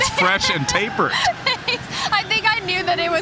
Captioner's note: laughing